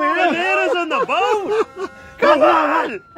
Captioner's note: laughs